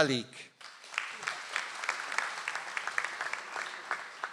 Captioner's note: audience applauds